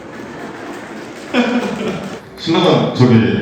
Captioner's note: chuckles